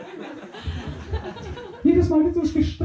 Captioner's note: laughter